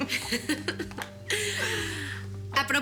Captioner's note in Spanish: Risas